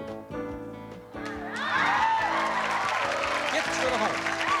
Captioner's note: applause